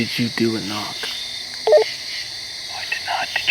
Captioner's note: walkie beeps